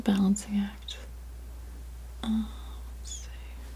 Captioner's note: scratching